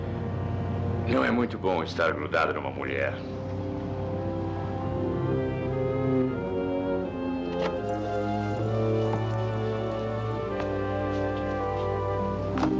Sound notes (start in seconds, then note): none